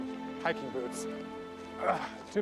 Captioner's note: groans